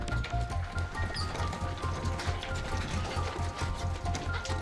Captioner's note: hooves clattering; metal squeaks